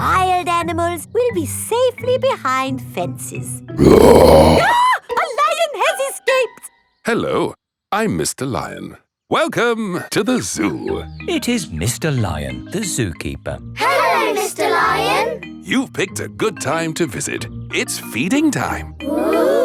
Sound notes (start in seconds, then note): 3.8 roars; 3.8 screams